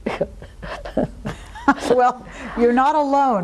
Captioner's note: laughing